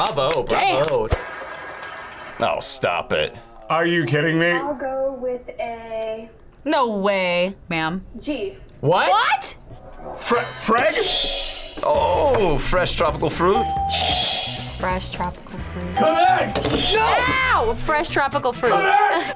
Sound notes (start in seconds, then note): 10.9 buzzer rings; 13.6 bell rings; 16.0 buzzer rings